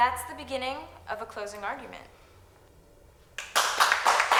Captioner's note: students applauding